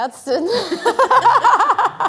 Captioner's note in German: Lachen